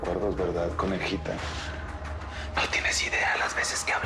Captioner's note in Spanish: Susurra